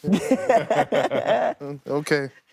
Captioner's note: laughing